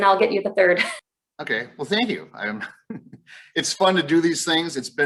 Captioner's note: chuckles